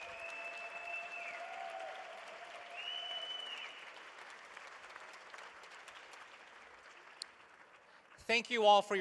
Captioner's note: applause